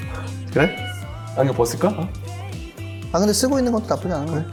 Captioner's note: heart pounding